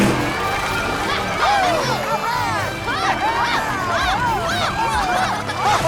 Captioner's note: cheering